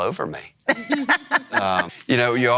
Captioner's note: laughs